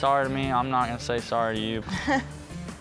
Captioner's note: scoffs